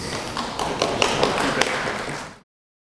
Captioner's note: applause